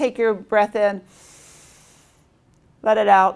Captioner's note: inhales